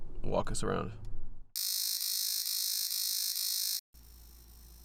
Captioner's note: alarm sound